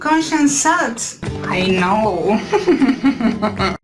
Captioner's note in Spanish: Risa maquiavélica